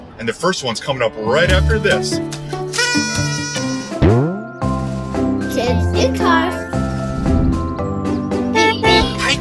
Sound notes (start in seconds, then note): 2.6 blowing party horn; 7.2 jingle; 8.5 honking